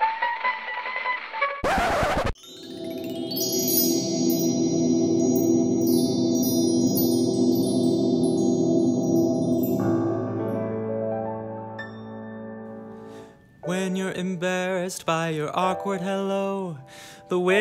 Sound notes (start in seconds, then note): 1.6 record scratch; 2.4 mystical whirring; 9.9 piano scale playing